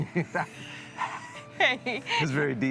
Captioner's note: laughing